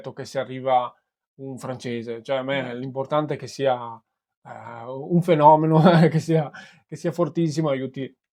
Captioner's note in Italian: risate